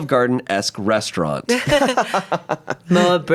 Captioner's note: everyone chuckles